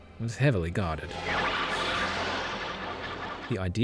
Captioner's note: zap zap kaboom